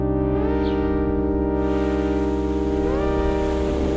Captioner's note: birds chirping